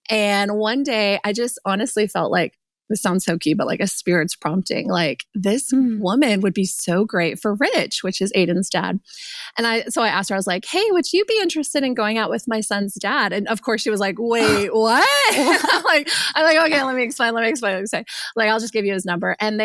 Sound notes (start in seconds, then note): 14.4 laughing